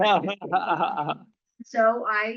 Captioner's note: laughter